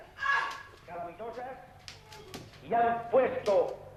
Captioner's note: screams